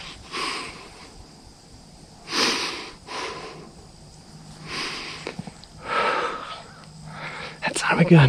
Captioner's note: breathing